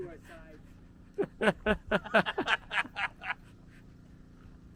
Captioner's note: everyone laughs